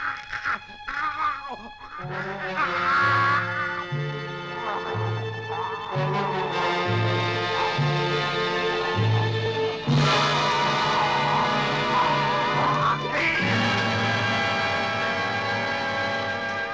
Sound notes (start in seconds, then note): 2.1 frightening music; 9.3 growling; 12.8 Dr. Jennsen shrieks